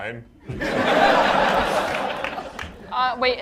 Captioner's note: laughter